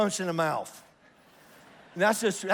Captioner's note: congregation laughs